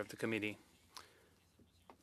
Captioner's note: speaking French